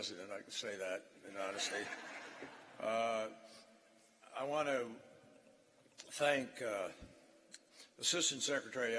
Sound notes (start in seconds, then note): 3.3 laughter